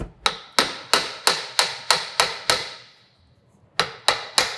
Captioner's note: hammer banging